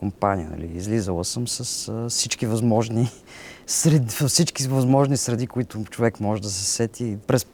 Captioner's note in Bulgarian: смее се